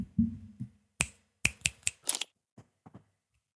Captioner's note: click, click